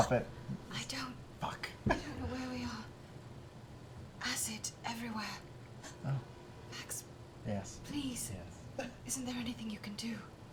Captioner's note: whispering